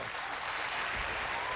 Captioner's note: applause